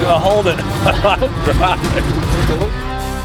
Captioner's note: laughs